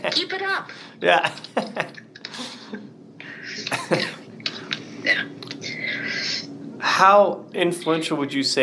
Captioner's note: both laugh